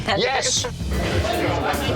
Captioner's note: chatter